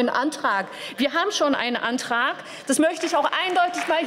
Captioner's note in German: Beifall